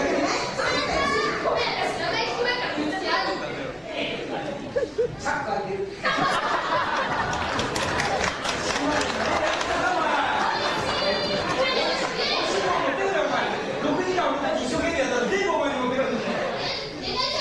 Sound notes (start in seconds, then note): 6.0 laughter in the venue